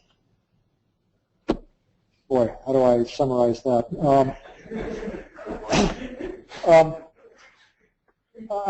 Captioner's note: laugh